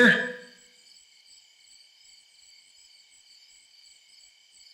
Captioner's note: crickets chirping